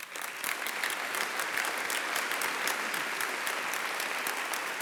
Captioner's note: applause